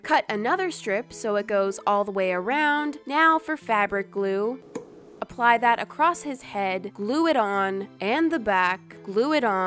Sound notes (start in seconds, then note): 4.7 pop